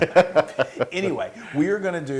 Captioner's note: laugh